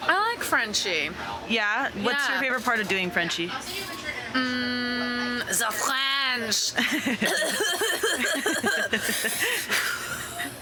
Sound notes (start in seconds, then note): 4.3 hums; 7.1 coughing